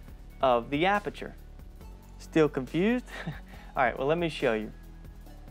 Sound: laugh

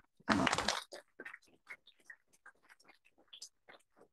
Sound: applause

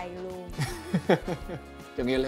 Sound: laugh

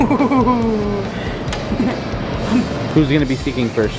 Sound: mischievous chuckling

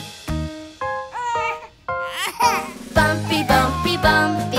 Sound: baby crying

